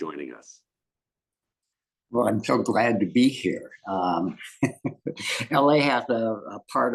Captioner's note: laugh